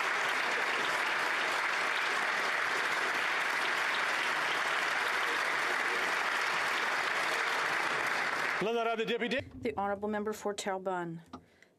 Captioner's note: applause